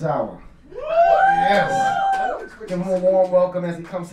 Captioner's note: audience cheer